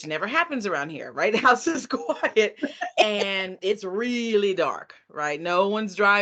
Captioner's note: laughing